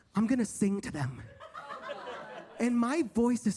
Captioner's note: audience laughs